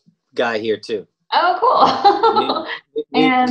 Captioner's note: laughs